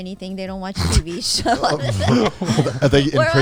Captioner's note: laughs